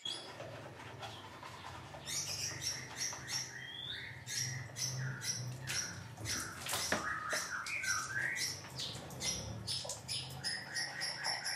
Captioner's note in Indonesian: kicau burung bersahutan